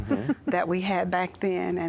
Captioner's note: giggling